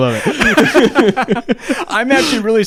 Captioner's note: both laugh